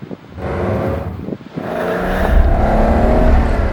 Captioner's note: splash!; engine is angry